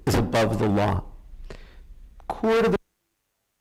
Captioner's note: audio cutting in and out